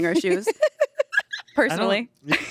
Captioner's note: laughs